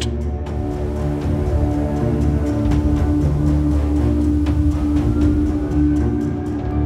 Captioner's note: siren wailing in distance